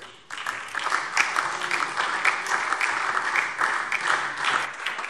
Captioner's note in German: Beifall SPD und DIE LINKE